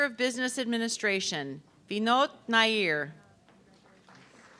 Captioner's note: audience clapping